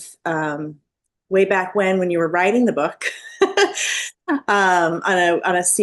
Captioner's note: laughs